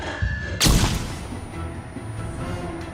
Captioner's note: flashbang explodes